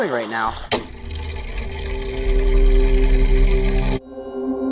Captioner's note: mechanism Whirring